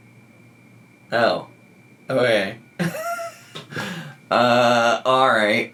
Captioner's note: laughing